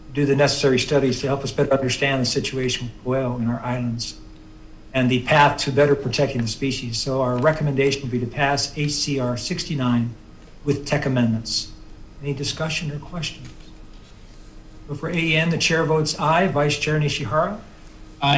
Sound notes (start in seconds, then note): none